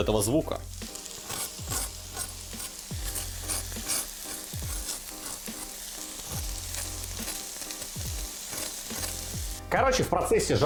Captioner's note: scratching